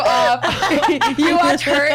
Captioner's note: laughs